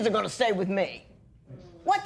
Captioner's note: gruffly